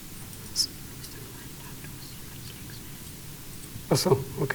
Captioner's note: whispering